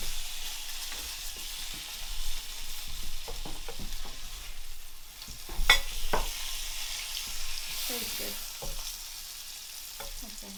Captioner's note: water running